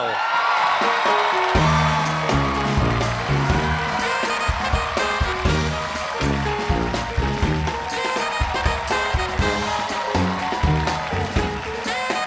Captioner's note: cheers and applause